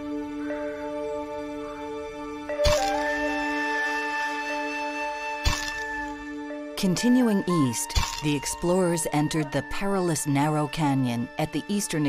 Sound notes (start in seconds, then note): 2.6 camera shutter snaps